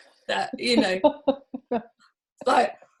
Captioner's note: laughs